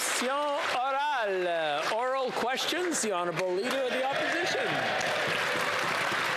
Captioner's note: some Applause